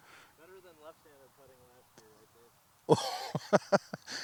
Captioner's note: murmurs; laughs